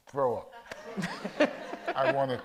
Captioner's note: audience laughs